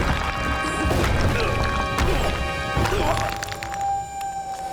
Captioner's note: groaning